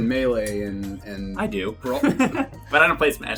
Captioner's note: laugh